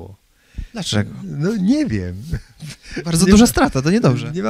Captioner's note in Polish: śmiech